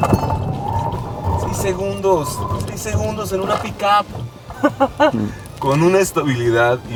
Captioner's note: laughter